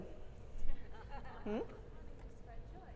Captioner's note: audience laughs